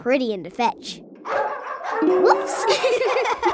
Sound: barking; laughing

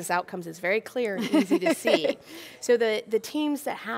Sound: laughing

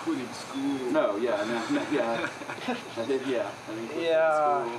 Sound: laughs

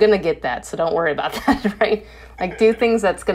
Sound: laughs

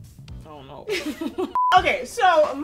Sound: beep

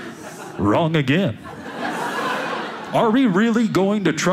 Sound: audience laughing

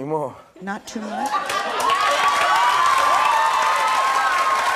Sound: audience clapping

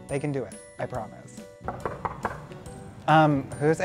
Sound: knocking

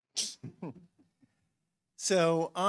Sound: chuckles

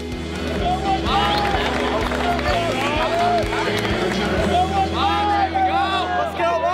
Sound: crowd cheering

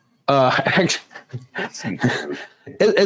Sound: laughs

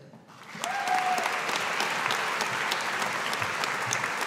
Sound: audience applauding

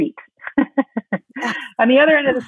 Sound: laughing

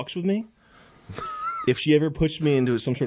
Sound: laughs nervously

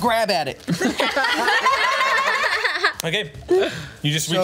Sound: laughs

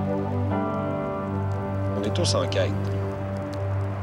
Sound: fire crackling

